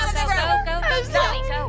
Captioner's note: sobbing